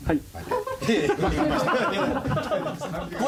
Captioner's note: all laughing